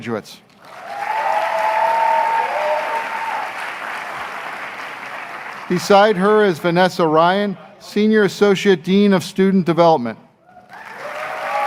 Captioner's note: applause